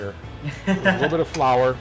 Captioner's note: laughing